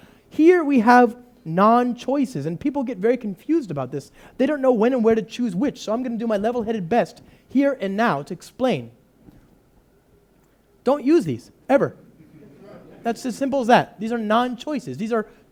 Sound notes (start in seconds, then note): 12.2 loud laughter